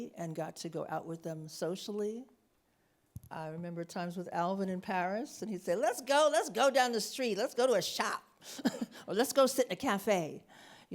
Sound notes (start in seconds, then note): 8.5 chuckles